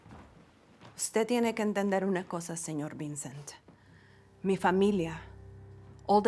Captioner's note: woman speaking in Spanish